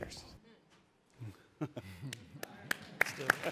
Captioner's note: chuckling; audience applauding